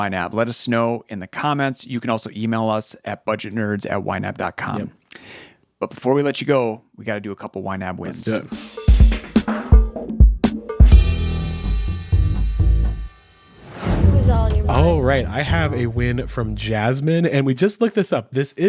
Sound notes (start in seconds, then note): 8.2 upbeat music; 13.5 image whooshes